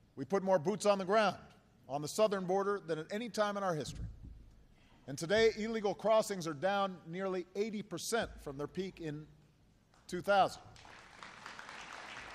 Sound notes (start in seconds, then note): 10.6 applause